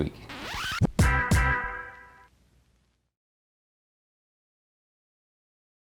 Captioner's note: record scratches; upbeat music